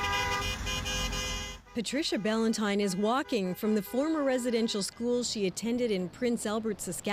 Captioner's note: honking